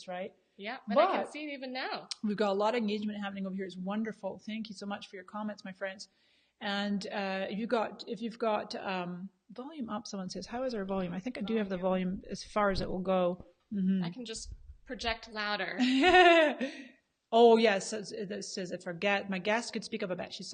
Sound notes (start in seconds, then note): 15.8 laughs